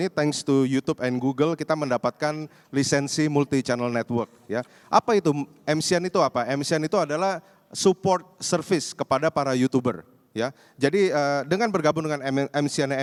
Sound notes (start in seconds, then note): 1.4 non-english speech